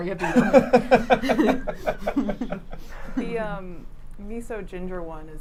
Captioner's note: laughing